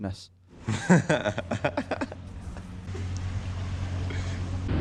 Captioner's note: laughing